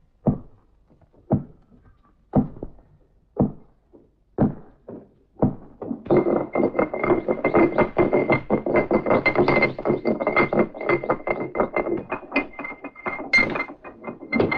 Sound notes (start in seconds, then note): 0.1 thuds; 6.0 grinding